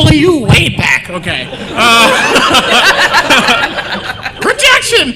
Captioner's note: laughter